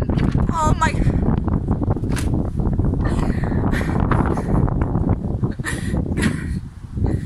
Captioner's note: untangled noises